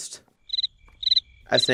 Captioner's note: crickets chirping